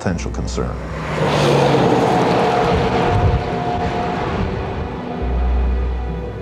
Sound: roaring truck; melancholic violins

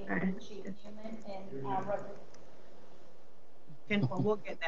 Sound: voice muffled

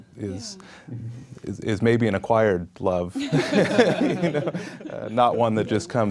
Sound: laughing

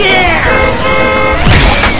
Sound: honking

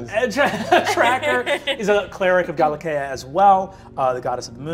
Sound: laughs

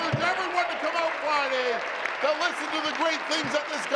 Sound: applause

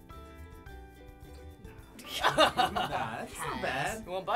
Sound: laughing

